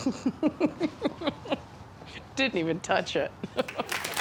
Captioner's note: laughing